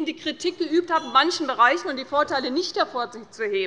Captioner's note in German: Unruhe - Glockenzeichen des Präsidenten